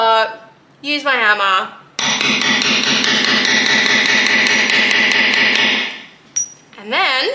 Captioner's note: hammering banging sounds